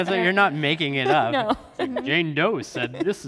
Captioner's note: laughs